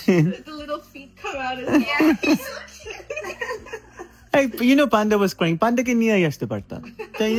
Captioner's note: loud laughter